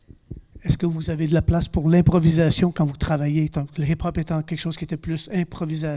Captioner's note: speaking in French